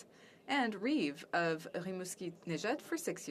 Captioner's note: speaking French